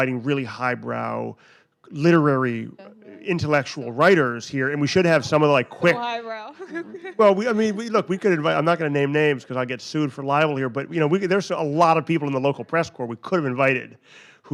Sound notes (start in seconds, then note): 6.4 laughs